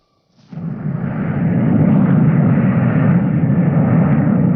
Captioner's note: plane whirring